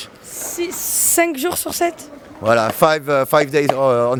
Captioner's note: speaking in foreign language